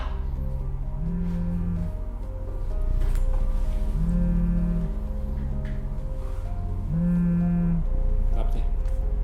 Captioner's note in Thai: เสียงโทรศัพท์สั่น